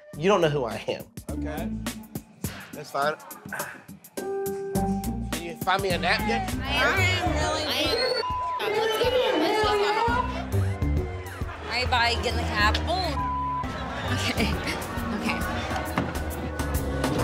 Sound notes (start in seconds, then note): 7.5 beep; 13.1 beep